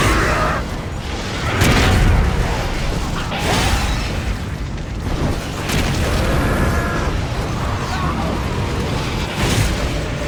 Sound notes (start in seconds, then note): 0.6 explosion booms; 3.9 spellcasting booms